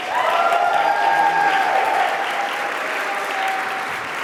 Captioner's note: audience applauding